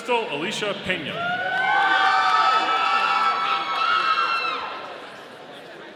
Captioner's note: audience cheering